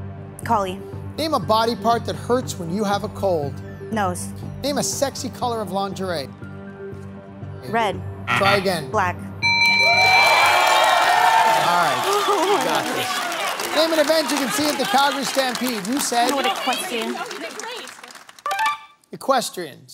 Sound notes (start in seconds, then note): 9.4 timer dings; 11.1 cheering/applause